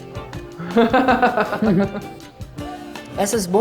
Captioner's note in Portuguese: risos